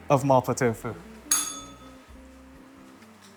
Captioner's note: bell rings